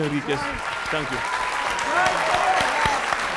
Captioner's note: audience applauds; audience cheers